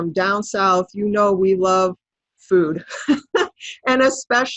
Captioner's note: laughs